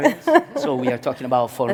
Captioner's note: laughs